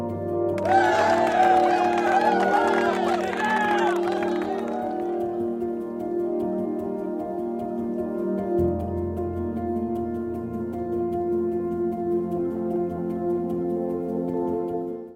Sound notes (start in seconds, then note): 0.6 cheers and applause; 6.2 light music